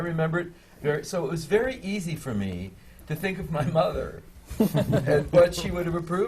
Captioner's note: laughter from the panel